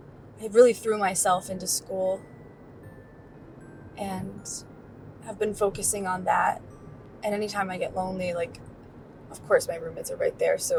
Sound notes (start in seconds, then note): none